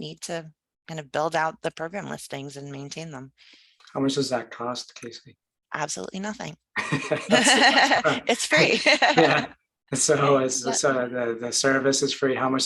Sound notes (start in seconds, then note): 6.7 both laugh; 9.3 laughs